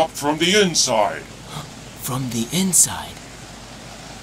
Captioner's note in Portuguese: Suspiros